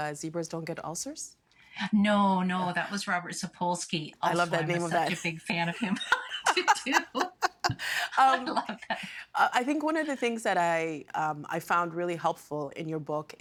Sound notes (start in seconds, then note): 5.7 both laughing